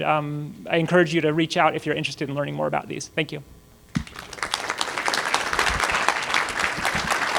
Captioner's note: applause